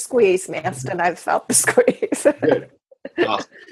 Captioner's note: laughs